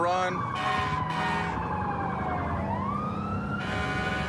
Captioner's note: emt sirens blaring